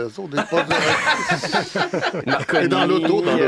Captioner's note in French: rires